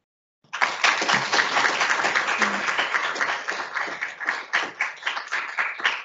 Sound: audience applauding

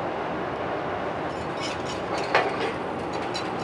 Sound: metal scrapes

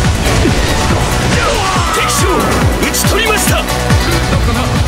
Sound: fatal scream

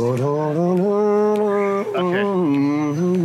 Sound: humming in rhythm

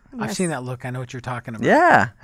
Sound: voiceover

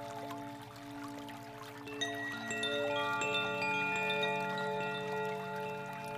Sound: bells lightly chiming; water babbling

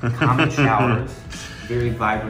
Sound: laughing

